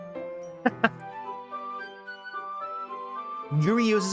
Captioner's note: laughing